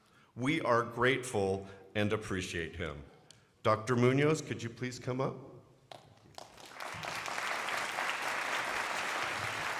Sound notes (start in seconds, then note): 6.4 crowd applauding